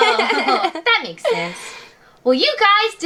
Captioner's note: laughs